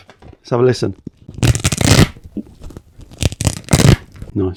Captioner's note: velcro ripping